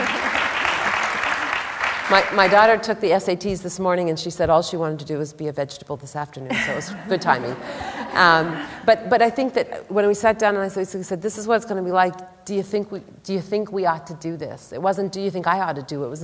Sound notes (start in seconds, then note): 6.5 laughter